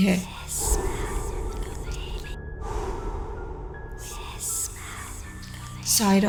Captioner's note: demonic breathing